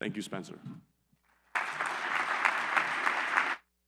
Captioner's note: applause